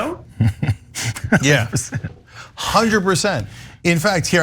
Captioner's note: laugh